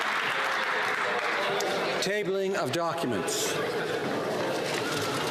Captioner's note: some Applause